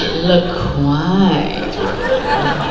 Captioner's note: sexy voice